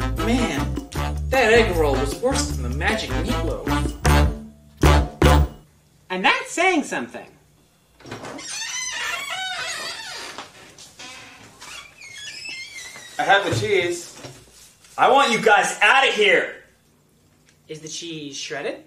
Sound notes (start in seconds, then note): 13.0 door closing; 13.0 door opening